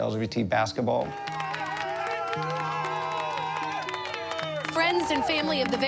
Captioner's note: everyone claps and cheers